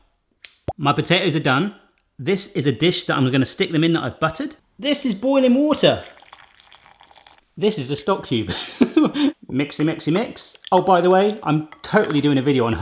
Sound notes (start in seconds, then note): 0.1 popping; 0.4 quick snipping; 5.9 water sloshing; 8.5 laughs